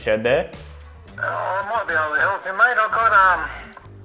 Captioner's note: on phone